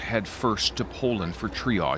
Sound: speaking Foreign Language

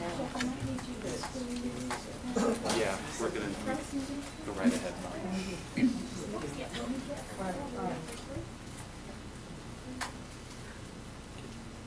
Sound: laughter

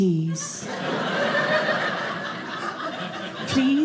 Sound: audience laughing

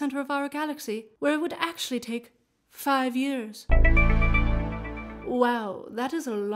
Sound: game show answer tones

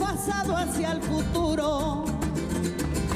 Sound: applause

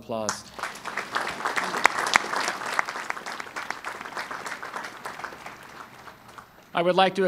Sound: applause

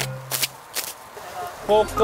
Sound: flaps in the wind

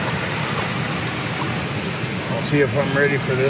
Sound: fish splashes

